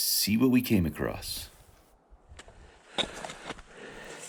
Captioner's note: tapping poles, crunching feet